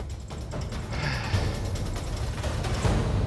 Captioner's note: sighs